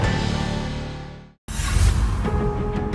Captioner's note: scene swooshing; dramatic music